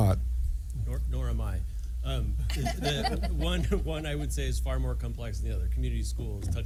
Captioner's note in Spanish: risas